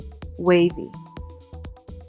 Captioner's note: voiceover